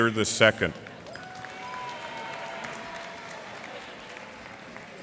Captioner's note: cheers and applause